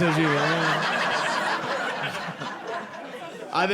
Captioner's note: audience laughing